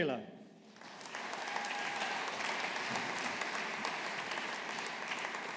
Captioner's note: audience applauding